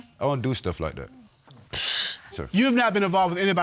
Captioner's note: exhales